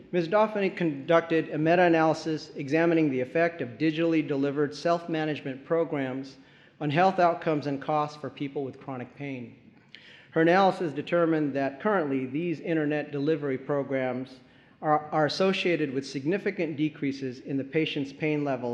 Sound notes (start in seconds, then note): none